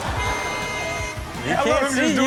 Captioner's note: horn honks; crowd laughing